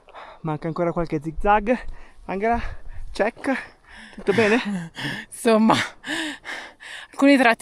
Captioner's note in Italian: risate